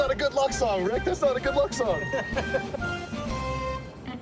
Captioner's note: laughs